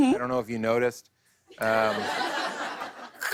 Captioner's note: laughter